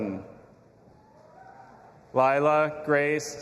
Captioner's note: audience applauding and cheering